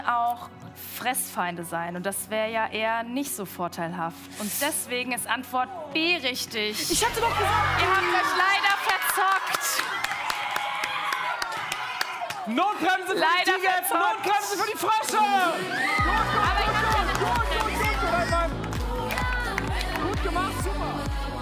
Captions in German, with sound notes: Da können auch Fressfeinde sein. Das wäre nicht so vorteilhaft. Deswegen ist Antwort B richtig. Ihr habt euch leider verzockt. Notbremse für die Tiger. Notbremse für die Frösche. (Applaus) (Dynamische Musik)